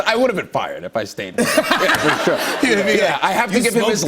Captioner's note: laughter